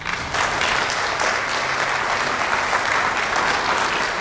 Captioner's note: audience applauding